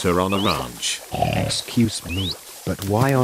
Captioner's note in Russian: Хрюканье